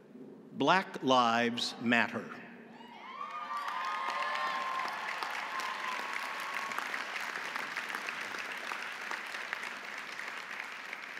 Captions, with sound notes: Black Lives Matter... (audience cheering) (audience applauding)